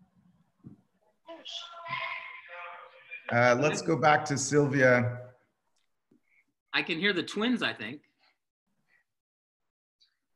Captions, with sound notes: (echoing) Let's go back to Silvia. - I can hear the twins I think.